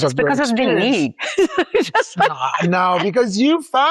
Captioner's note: laughs